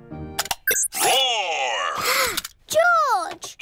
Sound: gasps

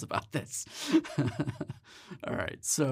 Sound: laughs

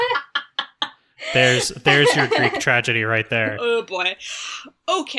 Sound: laugh

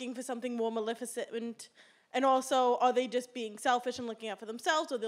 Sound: none

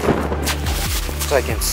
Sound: wind whistling

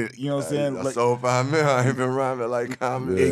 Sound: laughing

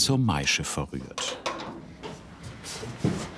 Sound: quiet rattling

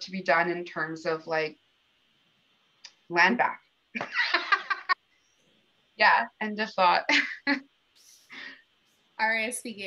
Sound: laughter

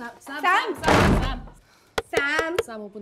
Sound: door closes

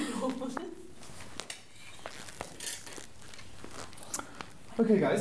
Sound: laughing, footsteps; swords ringing, squeaky footsteps

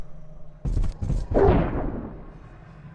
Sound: distant THWOOP!

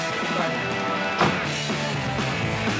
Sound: door closes

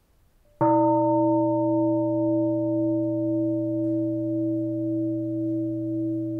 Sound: bell

